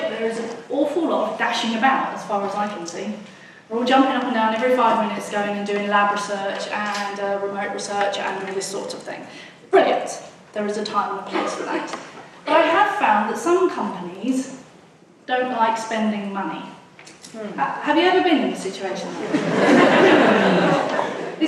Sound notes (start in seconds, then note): 17.0 voiceover; 19.1 audience laughs